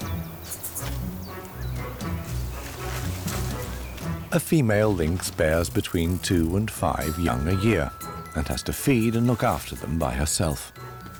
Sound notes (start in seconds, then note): none